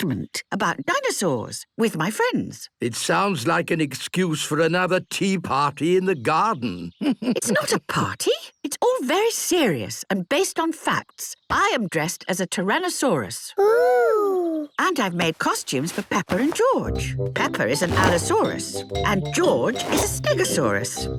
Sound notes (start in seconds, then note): 7.0 chuckles